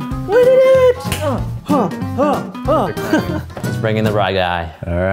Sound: grunting

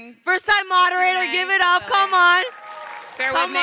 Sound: crowd cheering

